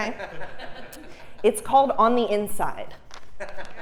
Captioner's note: laugh